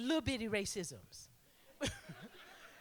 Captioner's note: laughter